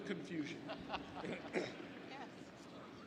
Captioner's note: speaker laughs